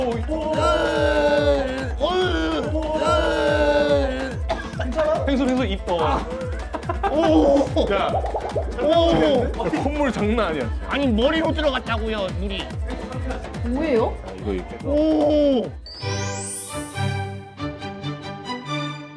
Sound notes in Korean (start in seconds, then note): 4.1 콜록 콜록